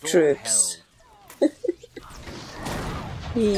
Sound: laughs

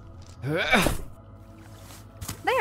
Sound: grunt

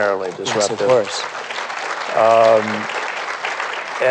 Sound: applause

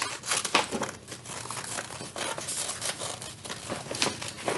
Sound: paper cutting

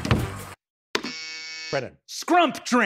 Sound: buzzer

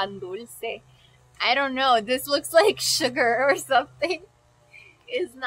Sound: laughs

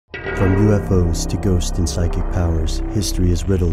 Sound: voiceover

